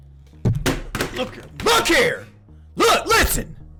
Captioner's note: remote thuds